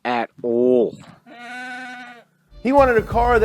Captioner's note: goat bleats